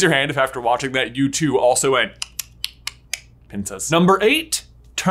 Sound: making clicking noises

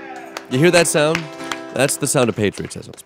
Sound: clapping

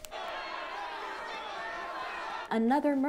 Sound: protestors shouting

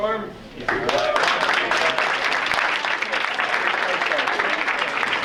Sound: audience applauding

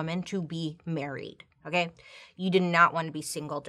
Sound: none

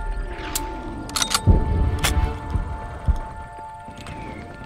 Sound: bullet casings click; gun clicks

